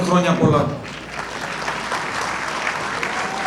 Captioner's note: audience applauding